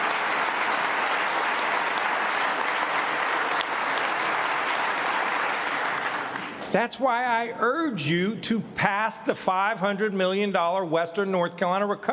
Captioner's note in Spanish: aplausos